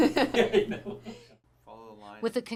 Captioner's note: laughter